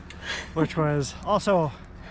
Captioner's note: laughs